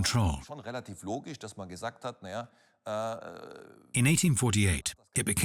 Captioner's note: speaks in foreign language